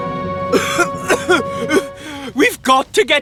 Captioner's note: coughing